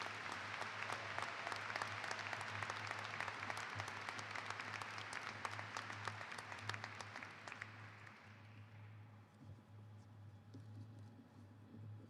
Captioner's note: applause